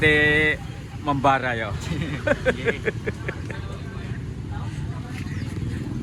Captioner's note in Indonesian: tertawa